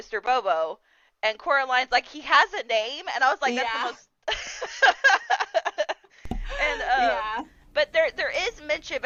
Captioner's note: laughter